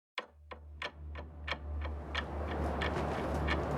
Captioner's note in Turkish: rüzgâr uğultusu; devamlı saat tıkırtısı